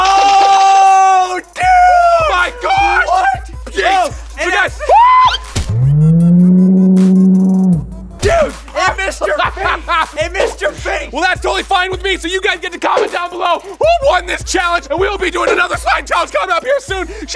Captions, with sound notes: Oh, dude! - Oh my gosh! Hey guys! (shrieks) (slow speed yelling) - Dude, it missed your face! (laughing) - Well that's totally fine with me, you guys get to comment down below, who won this challenge? We'll be doing another slime challenge coming up here soon.